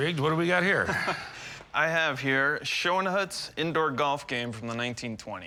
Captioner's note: chuckles